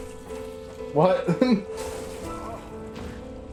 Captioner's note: laughs